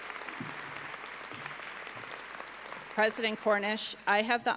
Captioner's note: applause